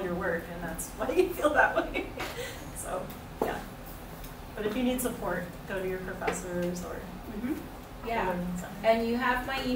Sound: laughs

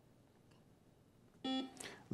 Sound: buzzer beeps

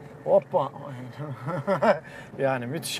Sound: laughs

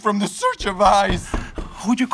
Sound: knocking

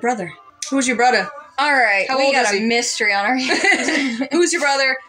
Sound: laugh

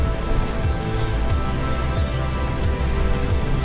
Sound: wind rumbling

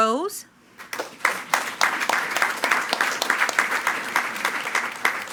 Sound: attendees clapping

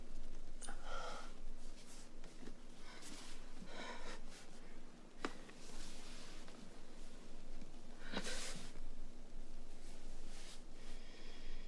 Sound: strained breathing

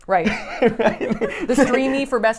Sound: laughs

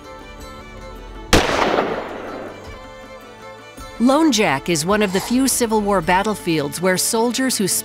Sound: gunshot

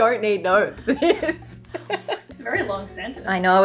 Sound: laughing

